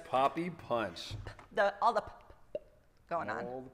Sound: make Puh sound

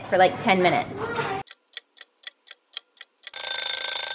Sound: clock ticking; clock ringing

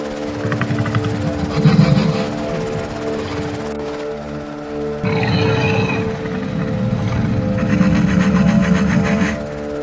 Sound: Indominus Rex low growling

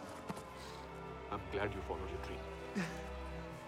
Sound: sobbing

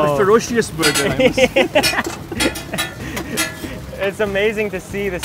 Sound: laughs

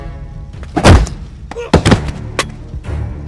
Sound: kicks

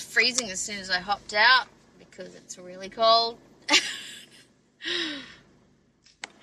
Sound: scoffs

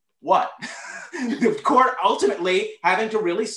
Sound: laughter

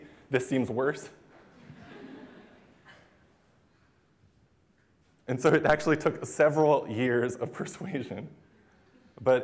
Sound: laughter

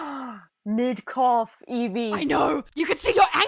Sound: gasp

